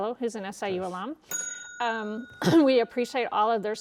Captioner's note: bell dings